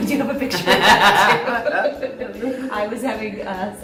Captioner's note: laughter